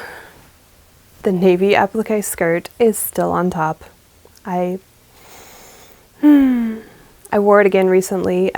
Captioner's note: happy sigh